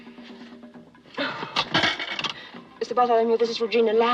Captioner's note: sighs; coin drops